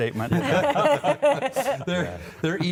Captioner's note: laughter